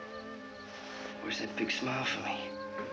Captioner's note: none